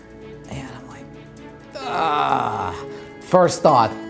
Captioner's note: groans